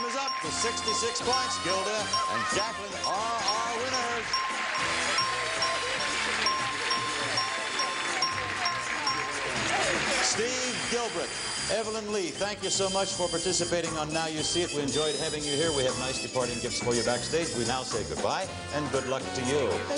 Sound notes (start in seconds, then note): 4.0 theme music playing; 4.8 bell ringing